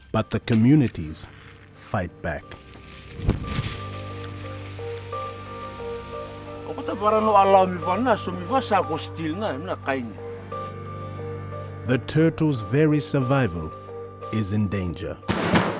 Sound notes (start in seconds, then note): 3.9 fire crackles; 6.9 man speaks in foreign language; 15.5 table bangs